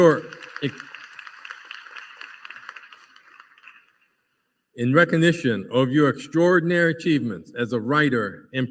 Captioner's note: applause